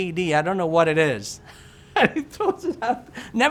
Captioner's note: laughs